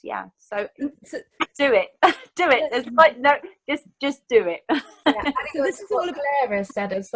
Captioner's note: chuckles